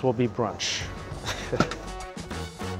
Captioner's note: chuckle